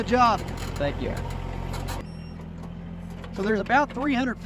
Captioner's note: tractor creaking